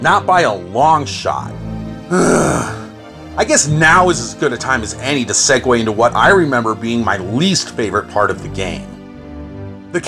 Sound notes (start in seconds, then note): 2.1 sigh